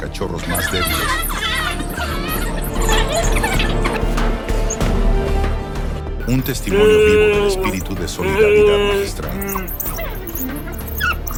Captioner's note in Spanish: risas